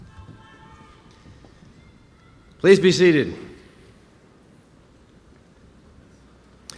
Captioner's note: applause